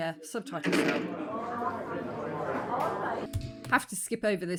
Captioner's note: bar noise